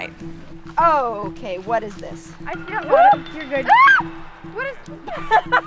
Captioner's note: screams